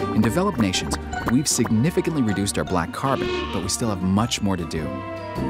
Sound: car horn

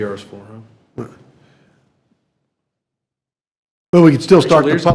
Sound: attendees chuckling

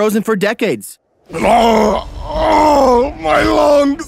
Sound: Qual groaning

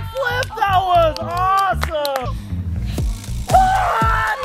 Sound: crowd claps

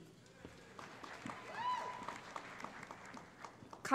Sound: applause

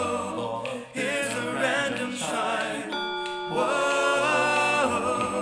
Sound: chime

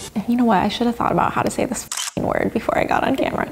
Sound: shutter clicks

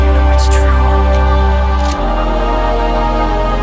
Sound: gun rattles

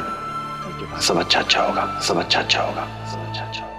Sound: echoing

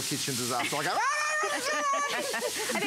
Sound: laughter

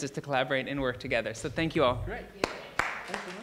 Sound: claps

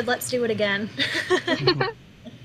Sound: laughter

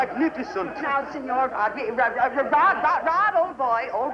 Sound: stuttering

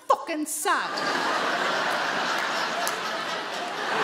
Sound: audience laughs

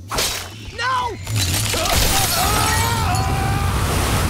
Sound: screaming

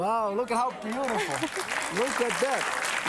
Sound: audience applause; laughs

